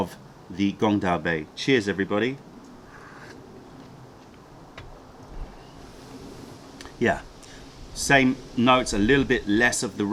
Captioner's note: sips tea